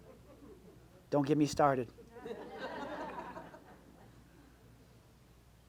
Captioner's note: audience laughs